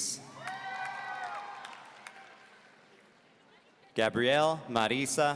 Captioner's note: audience cheering